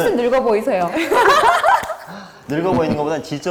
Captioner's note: cracking up